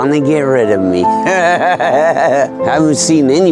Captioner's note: laughs